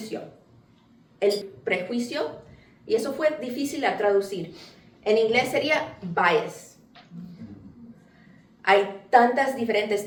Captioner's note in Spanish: La audiencia responde con muchos «mmm» de comprensión